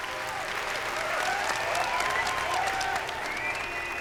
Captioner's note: applause and cheering